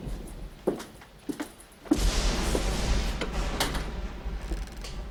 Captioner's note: thunder & lightning